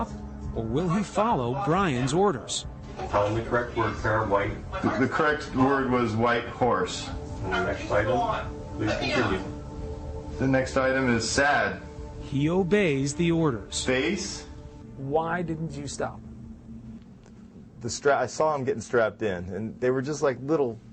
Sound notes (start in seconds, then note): none